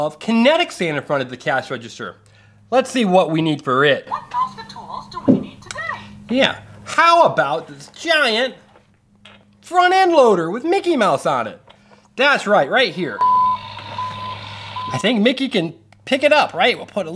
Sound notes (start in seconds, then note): 4.7 voiceover; 13.1 tractor beeping